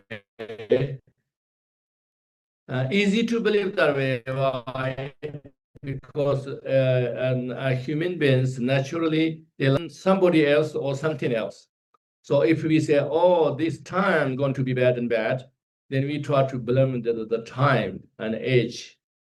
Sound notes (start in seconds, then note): 7.6 audio skip